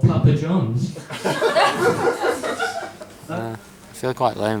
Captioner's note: laughter